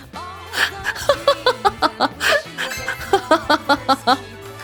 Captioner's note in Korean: 웃음